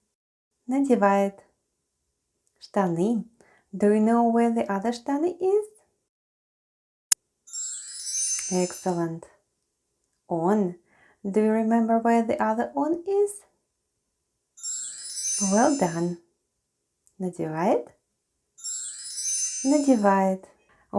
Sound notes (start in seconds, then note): 7.5 chime sound; 14.6 chime sound